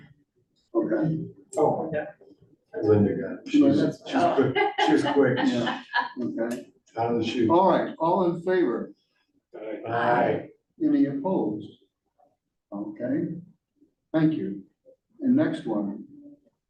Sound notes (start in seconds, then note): 5.5 laughs